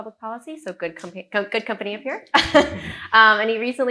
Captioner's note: chuckles